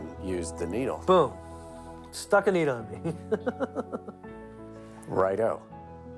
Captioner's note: chuckles